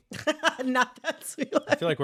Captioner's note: laughter